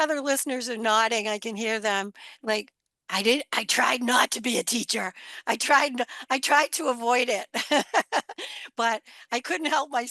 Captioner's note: laughs